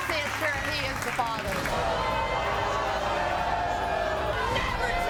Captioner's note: audience booing